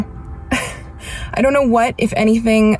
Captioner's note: chuckles